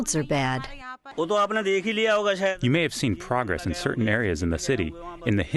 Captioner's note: through translator